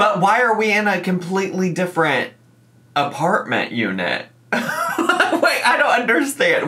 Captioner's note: laughs